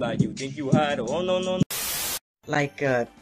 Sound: TV Static

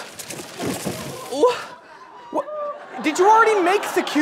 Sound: clattering; stuttering

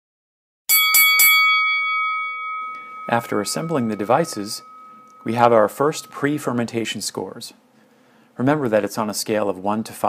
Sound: boxing bell rings 3 times

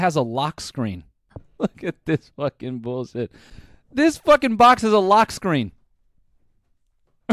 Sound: laughing

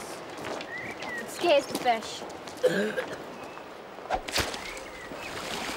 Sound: Dan coughing

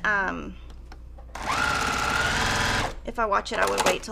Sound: sewing machine resounding

